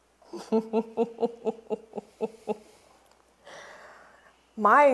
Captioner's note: Clementina laughs